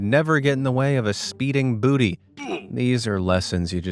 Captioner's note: Minecraft 'oof' sound